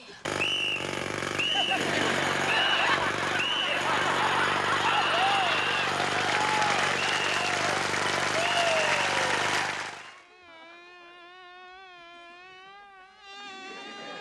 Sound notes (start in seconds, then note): 0.2 jackhammer running & whistle blowing; 10.5 fly buzzing